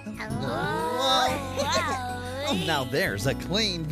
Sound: excited Chatter

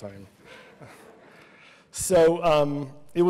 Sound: laughter

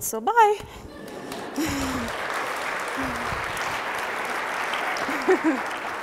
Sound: audience applauding

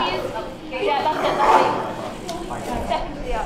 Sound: growling

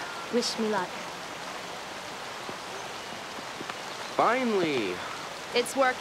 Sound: none

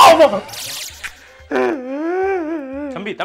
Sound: person crying

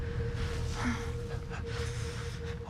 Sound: exhales; pants

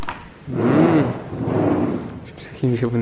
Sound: engine sound

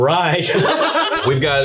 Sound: all laughing loudly

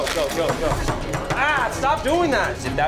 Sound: tapping on bar

